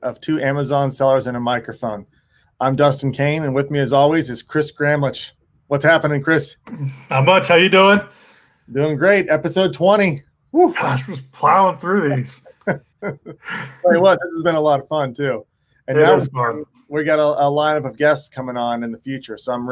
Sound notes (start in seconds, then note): 10.7 sighs; 11.9 laughs